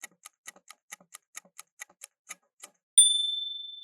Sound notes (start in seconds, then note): 0.0 timer ticking